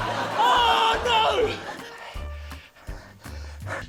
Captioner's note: yells; laughter; breathes heavily